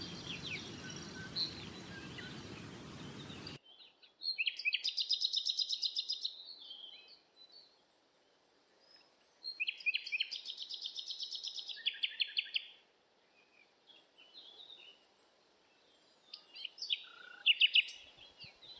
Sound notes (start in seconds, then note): 3.7 birds chirping